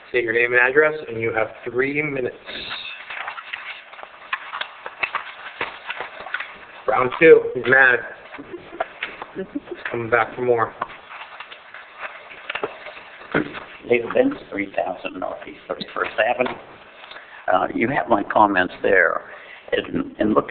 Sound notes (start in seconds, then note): 6.0 shuffling; 8.2 chuckling